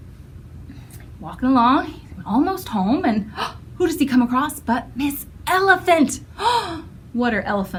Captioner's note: gasp